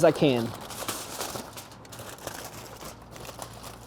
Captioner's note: foil crinkling